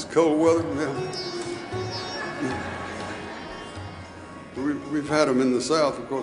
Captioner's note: audience laughing